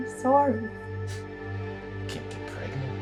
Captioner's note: husband chuckles